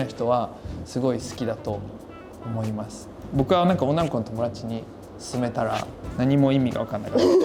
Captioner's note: laughs